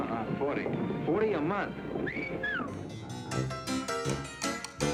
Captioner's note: whistles